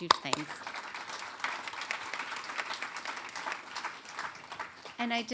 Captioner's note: applause